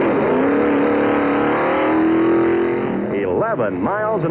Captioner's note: engines roaring